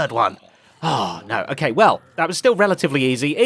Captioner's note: sighs